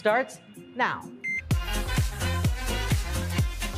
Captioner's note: upbeat music; timer beeping